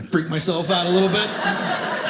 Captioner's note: audience laughing